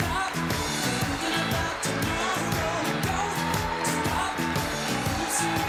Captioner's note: audience cheering and applauding; lively music